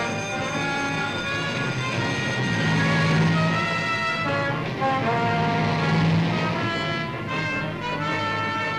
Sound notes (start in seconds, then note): 1.9 engine revs